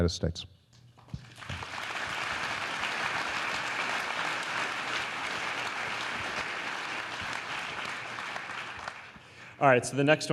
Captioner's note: applause